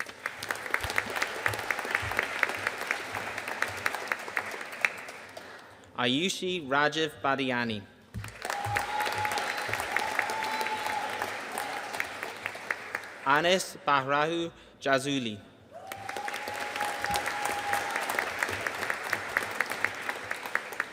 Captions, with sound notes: (AUDIENCE APPLAUDING) Ayushi Rajiv Badiyani. (AUDIENCE CHEERING AND APPLAUDING) Anis Bahraoui Jazouli. (AUDIENCE CHEERING AND APPLAUDING)